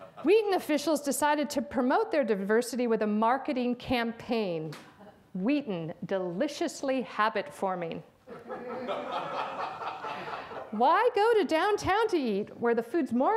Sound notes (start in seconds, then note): 8.3 audience laughs